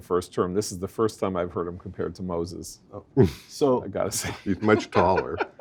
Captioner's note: laugh